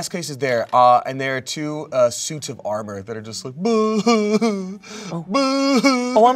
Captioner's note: sobs